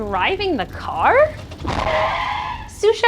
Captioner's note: tire screech